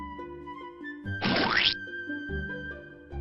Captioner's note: comical squishing sound is heard